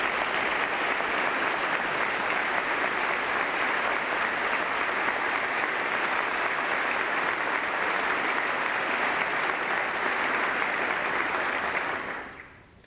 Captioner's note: applause